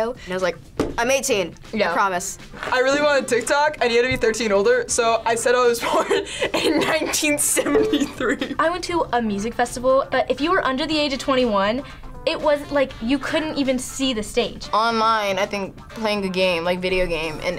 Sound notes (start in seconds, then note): 5.8 laughs